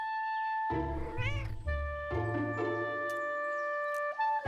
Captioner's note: cat meows